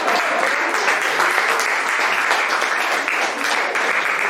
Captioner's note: audience applauding